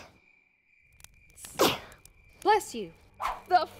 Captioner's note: Sophie sneezes